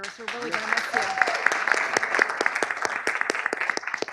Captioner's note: applause